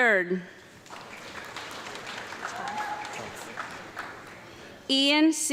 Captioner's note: audience clapping